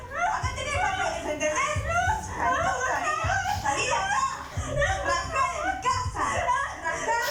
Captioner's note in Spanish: Discusión a gritos y sollozos